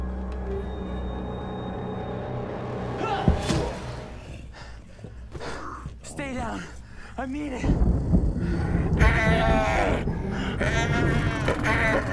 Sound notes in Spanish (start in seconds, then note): 3.3 Gruñidos; 3.8 Gimidos